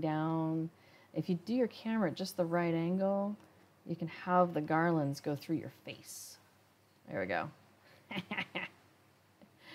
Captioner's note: laughs